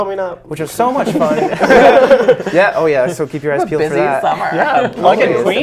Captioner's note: laughs